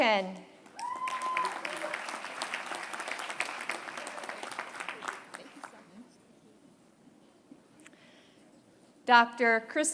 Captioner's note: applause